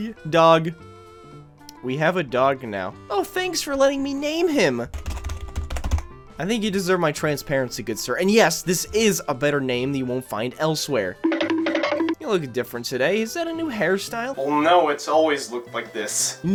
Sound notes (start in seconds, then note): 4.9 typing; 11.2 cartoon running sfx